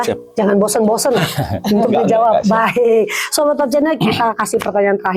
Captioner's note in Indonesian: tertawa